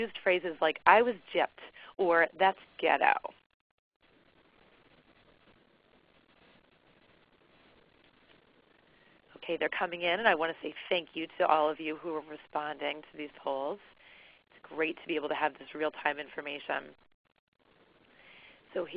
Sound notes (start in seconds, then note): 2.4 silence